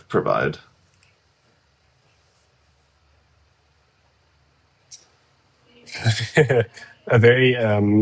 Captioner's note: laughs